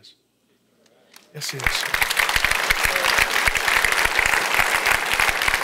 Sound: congregation applauds

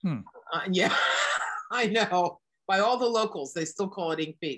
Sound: laughs

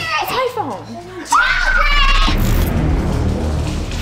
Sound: screeching; intense music

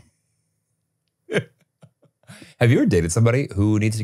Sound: chuckles

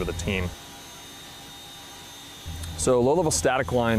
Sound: helicopter buzzes

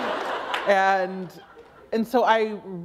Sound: laughter

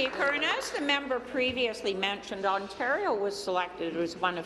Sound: applause

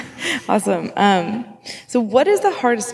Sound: laughing

